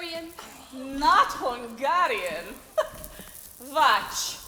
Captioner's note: laughing